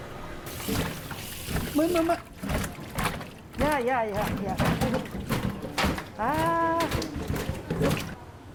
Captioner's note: sound of a live anglerfish wriggling